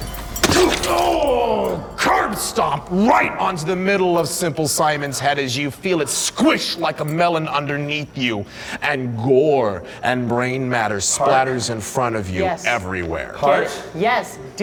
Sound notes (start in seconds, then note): 0.0 crunching